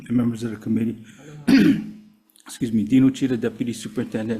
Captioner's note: coughs